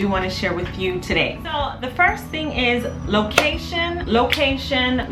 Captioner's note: hand clap